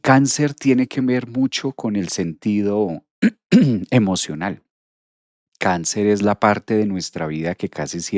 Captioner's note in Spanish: carraspeo